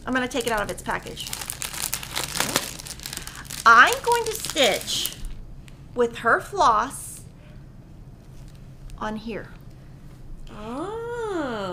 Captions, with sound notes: I'm gonna take it out of its package. (paper rustling) I'm going to switch with her floss on here.